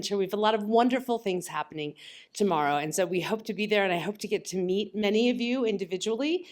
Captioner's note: none